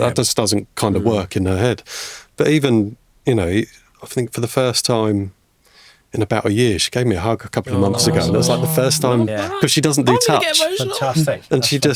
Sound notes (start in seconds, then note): 7.6 podcasters cooing